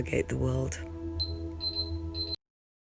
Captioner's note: beeping